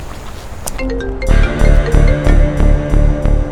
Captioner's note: mobile ringing